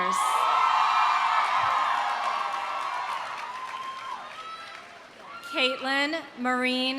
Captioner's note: audience cheering; audience applauding